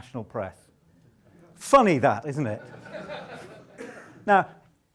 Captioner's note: audience laughs